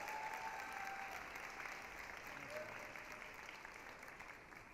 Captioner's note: applause, cheering